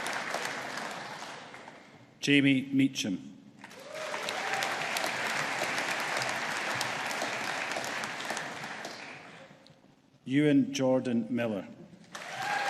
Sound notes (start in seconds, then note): 3.6 audience applauding; 12.1 audience applauding